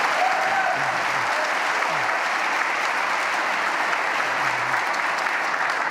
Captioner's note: applause